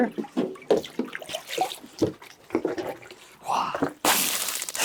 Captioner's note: water sloshing; water splashing